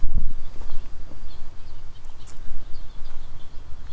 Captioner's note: birds chirping